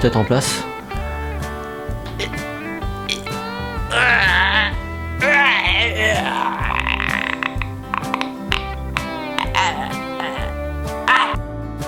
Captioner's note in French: Bruits de douleurs